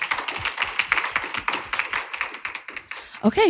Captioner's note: applause